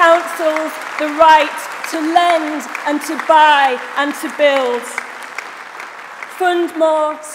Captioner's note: applause